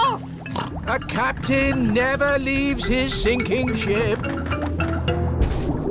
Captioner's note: snorts